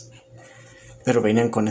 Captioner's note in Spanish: Silencio